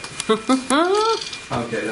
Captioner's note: chuckles